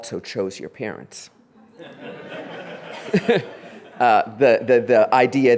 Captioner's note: laughing